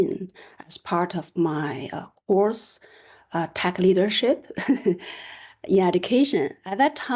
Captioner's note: laughter